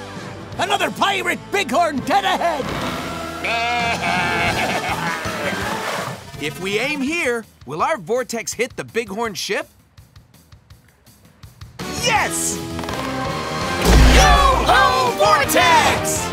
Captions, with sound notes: Another pirate bighorn dead ahead! [bleating] If we aim here, will our vortex hit the bighorn ship? Yes! Yo-ho, vortex!